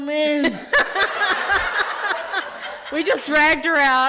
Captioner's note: loud laughter